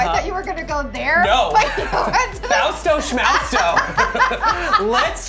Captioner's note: Marcela laughs